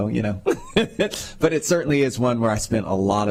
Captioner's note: laughter